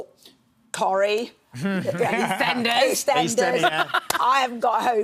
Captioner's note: laughs